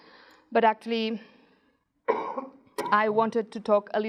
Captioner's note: man coughs